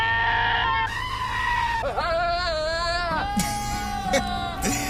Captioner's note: bleating; chuckles